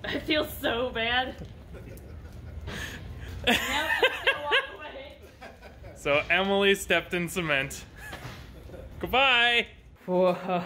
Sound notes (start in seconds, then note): 1.6 background workers laughing; 3.4 laughs